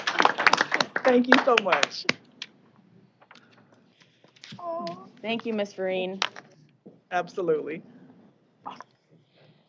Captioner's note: applause